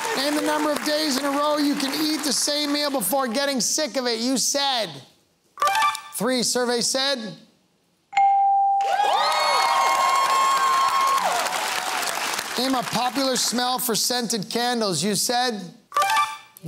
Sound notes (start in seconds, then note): 8.8 cheering and applause